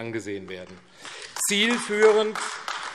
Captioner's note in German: Beifall AfD